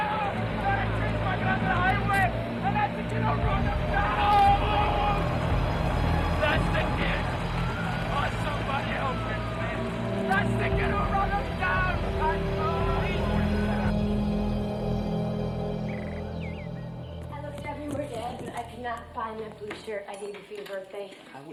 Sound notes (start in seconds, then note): 14.2 birds chirping; 14.2 dramatic music